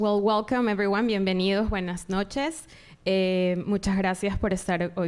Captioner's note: speaking in Spanish